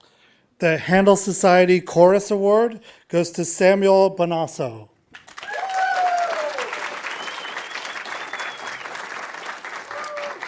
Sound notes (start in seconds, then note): 5.2 audience applauding